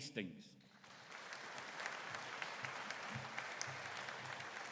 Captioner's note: audience applauding